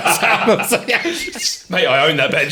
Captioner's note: laughing